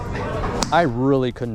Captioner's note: golf club smacking